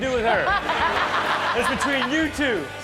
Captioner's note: audience laughs